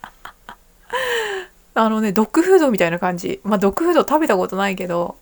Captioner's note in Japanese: 笑い